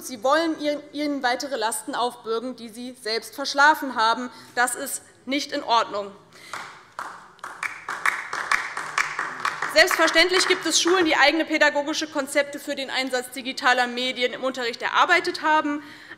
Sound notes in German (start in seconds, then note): 6.4 Beifall DIE LINKE